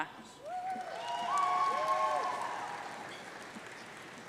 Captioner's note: audience cheering